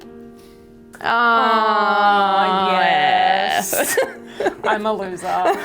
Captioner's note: laughing